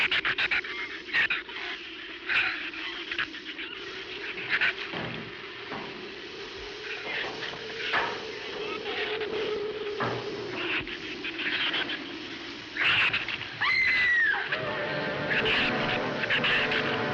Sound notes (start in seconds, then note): 13.5 screams